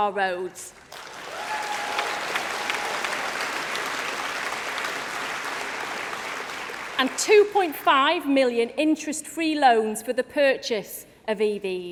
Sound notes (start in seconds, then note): 5.9 applause